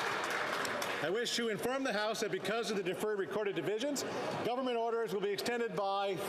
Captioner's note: applause